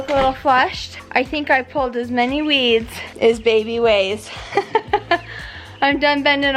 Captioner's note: laughs